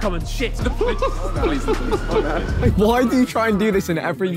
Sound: sirens wailing

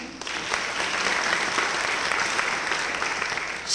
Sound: applause

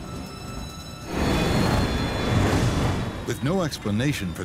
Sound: plane engine roars

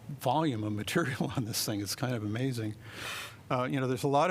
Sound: laughter

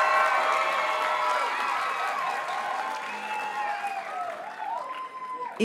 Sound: audience cheers and applauds

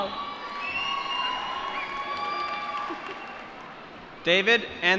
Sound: applause

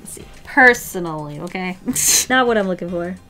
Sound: laughs

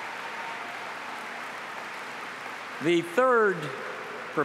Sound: applause

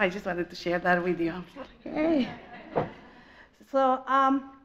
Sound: audience laughs

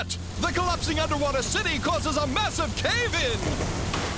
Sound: narrator Voice

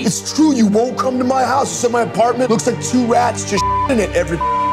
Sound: beep

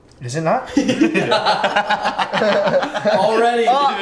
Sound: laughing

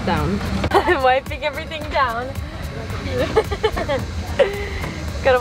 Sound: laughs

